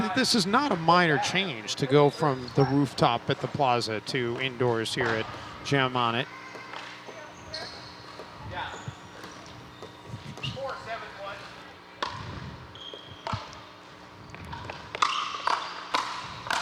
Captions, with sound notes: this is not a minor change to go from the rooftop at the Plaza to indoors here at Jam On It. (people chattering) - Yeah. Four seven one. (ball bouncing)